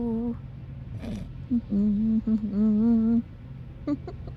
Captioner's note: humming